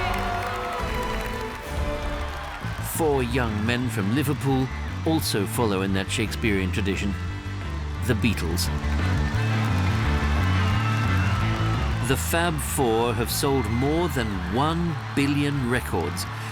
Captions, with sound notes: Four young men from Liverpool also follow in that Shakespearean tradition: the Beatles. [cheering, screaming] The "Fab Four" have sold more than one billion records,